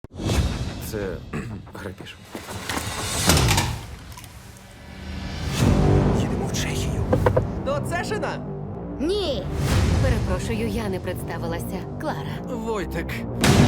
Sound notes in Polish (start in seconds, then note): 1.3 odchrząka; 5.5 muzyka elektroniczna